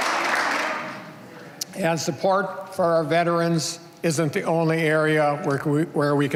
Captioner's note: applause